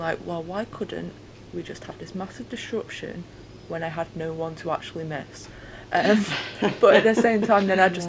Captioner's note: laughter